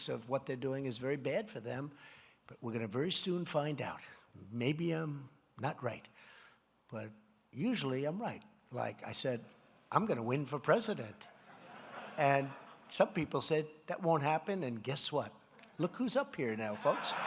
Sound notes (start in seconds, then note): 11.2 laughter